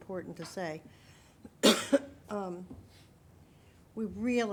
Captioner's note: coughs